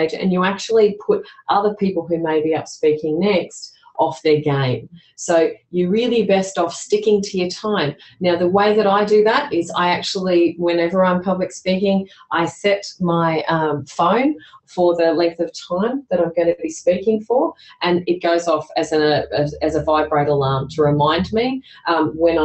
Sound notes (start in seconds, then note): none